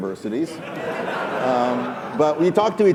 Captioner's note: laughing